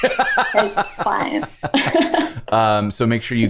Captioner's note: laughter